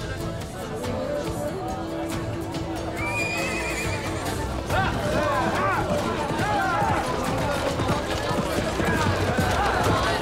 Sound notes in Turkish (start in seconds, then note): 3.3 At kişneme sesi; 4.6 Bağırma sesleri